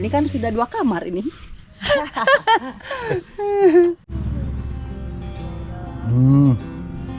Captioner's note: laughs